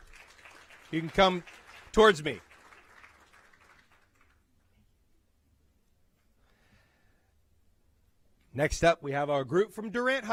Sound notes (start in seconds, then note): 5.3 applause